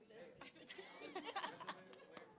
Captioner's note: laughter